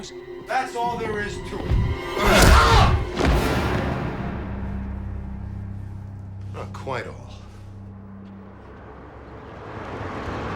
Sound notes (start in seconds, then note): 2.2 yells